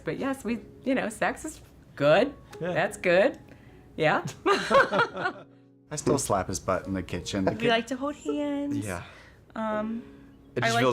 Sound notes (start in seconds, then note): 4.2 both laugh